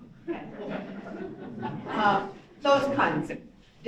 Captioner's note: audience laughs